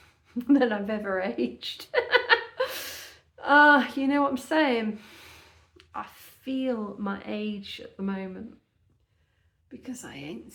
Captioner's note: chuckle